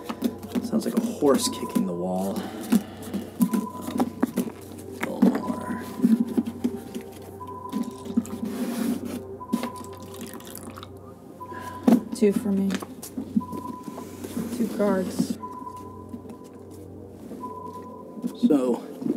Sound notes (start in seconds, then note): 7.9 liquid trickles